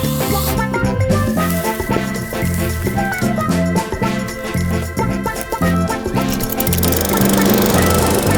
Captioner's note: drill whirring